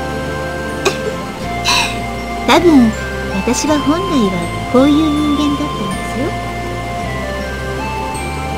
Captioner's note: rain; giggle